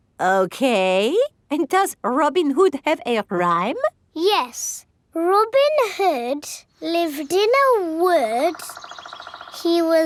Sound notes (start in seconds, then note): none